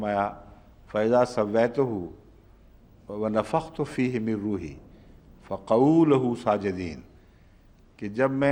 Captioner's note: Arabic